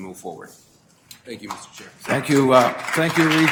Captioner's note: audience applause